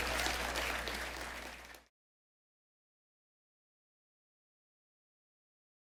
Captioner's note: attendees applauding and cheering